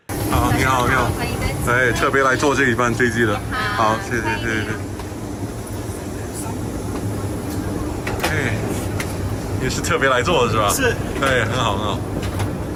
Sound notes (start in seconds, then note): 0.2 airplane noise; 4.8 chatter